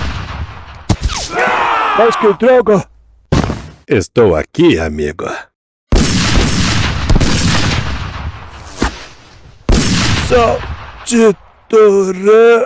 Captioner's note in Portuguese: grito